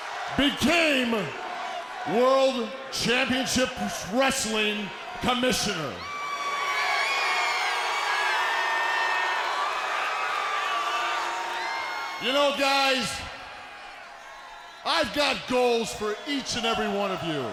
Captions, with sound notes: Became World Championship Wrestling Commissioner. (crowd boos) You know, guys. I've got goals for each and every one of you.